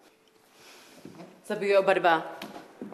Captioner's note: speaks another language